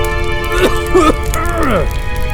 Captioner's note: The Prospector coughs again